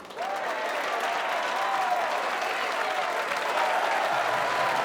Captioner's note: audience cheers and applauds